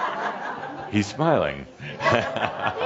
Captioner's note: laughter